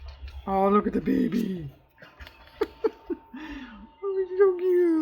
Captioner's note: laughs